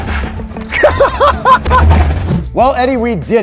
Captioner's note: laughs